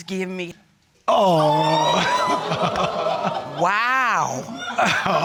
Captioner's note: audience exclaiming